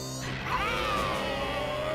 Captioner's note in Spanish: enojado